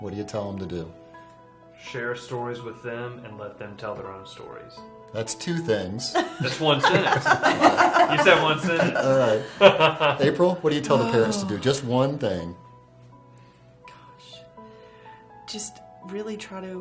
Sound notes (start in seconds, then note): 6.1 laugher